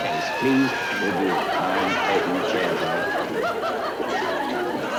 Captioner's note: audience laughter